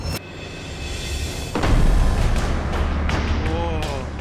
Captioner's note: explosion